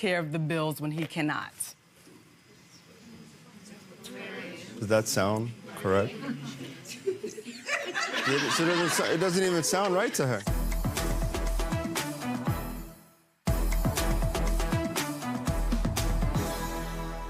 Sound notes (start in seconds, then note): 6.2 audience laughs; 10.5 dramatic music